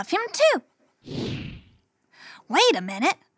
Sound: picture passes swooshes

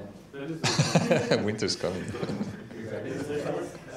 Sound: laughs

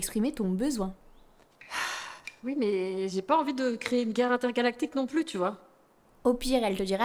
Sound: sighs

